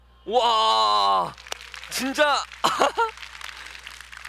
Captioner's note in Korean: 박수 소리